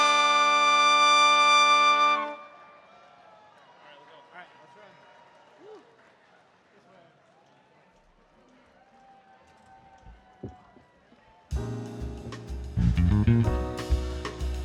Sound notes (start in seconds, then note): 4.5 cheers and applause; 11.5 jazz music